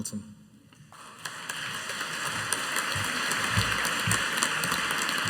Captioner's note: audience applauding